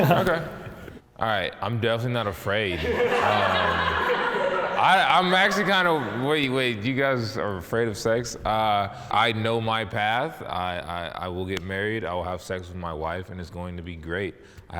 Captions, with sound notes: - Yeah. - Okay. All right. I'm definitely not afraid. (laughing) I'm actually kind of wait, wait, you guys are afraid of sex? I know my path. I, I, I will get married. I will have sex with my wife and it's going to be great.